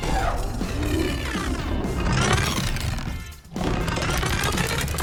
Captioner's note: energy whooshing; upbeat music